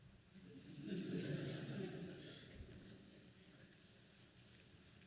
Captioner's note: laughing